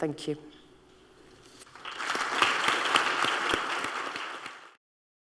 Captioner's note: applause